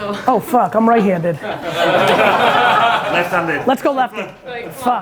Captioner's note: audience laughing